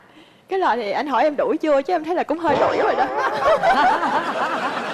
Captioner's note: sarcasm